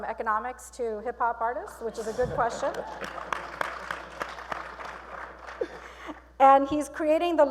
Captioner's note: applause